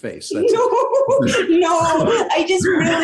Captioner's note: laughs